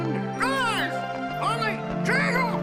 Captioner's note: צווחות